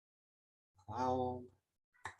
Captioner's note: clicking